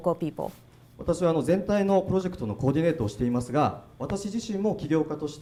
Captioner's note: speaking foreign language